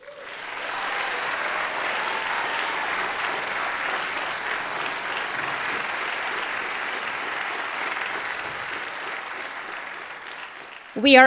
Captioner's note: applause